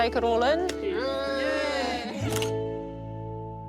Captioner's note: all cheer